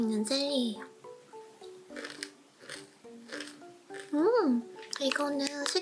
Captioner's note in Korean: 냠냠